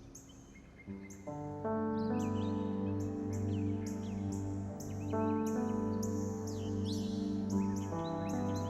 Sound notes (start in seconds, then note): 0.0 birds chirping; 0.0 gentle music